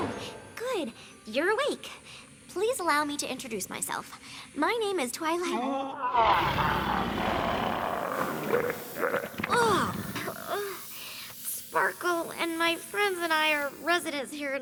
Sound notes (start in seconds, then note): 6.0 groans, roars; 11.1 groans